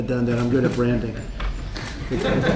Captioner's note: laughter